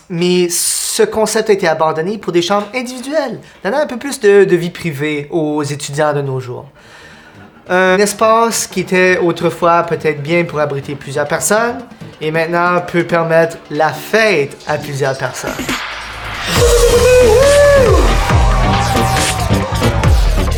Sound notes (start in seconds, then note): 16.4 party sounds; 16.5 dubstep music